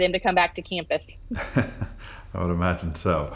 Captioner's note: laughs